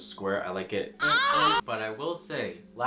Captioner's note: 𝓜𝓸𝓪𝓷𝓲𝓷𝓰